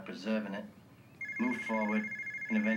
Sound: phone ringing

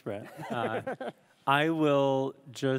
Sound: laughs

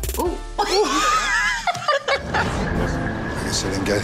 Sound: laughing

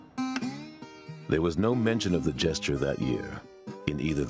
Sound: voiceover

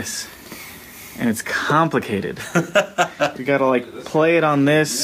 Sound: laughs

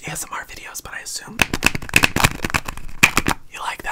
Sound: serum rattling

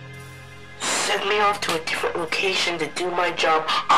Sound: walkie, muttering

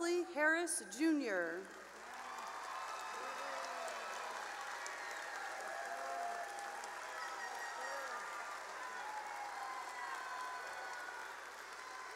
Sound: cheering and applause; horn tooting and applause

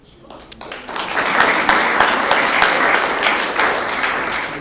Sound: room applauds

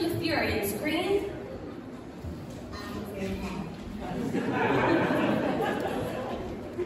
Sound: laughter

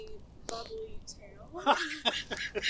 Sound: Magnar laughs

